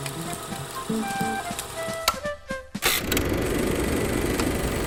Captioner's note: projector clicking; upbeat music